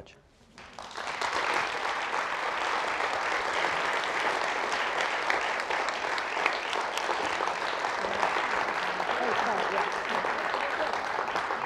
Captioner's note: applause